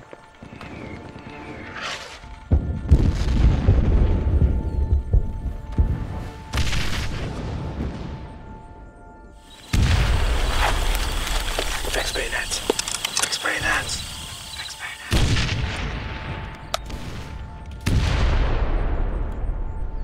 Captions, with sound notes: (artillery whistling and booming) (gunshots booming) - Fix bayonets. - Fix bayonets. - Fix bayonets. (artillery booming)